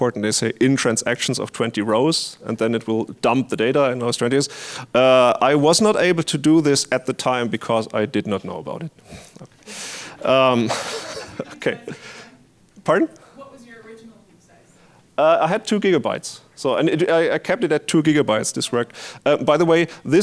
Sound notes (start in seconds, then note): 9.9 laughs; 10.2 audience laughing